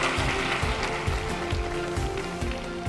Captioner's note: applause